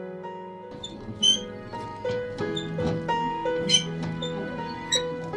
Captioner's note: gentle piano music continues; bicycle wheel squeaks